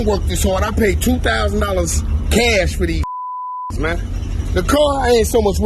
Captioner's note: beep